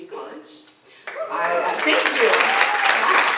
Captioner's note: audience applauding; audience cheering